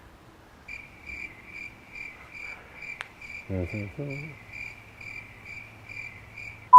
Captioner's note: crickets